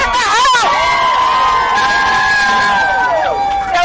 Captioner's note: shouting